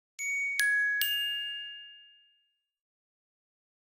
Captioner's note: bells ringing